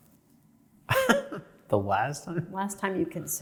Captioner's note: chuckles